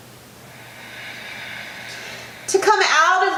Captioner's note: breathing deeply